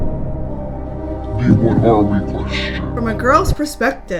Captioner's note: ominous voice